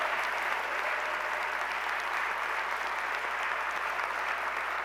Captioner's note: applause